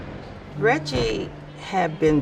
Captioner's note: bars slamming shut